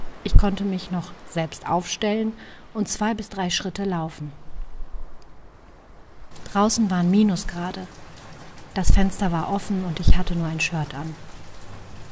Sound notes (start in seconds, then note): 4.6 rain sounds